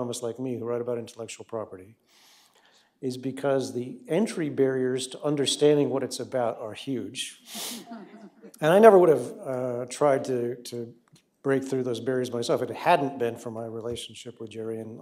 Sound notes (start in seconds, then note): 7.7 laughter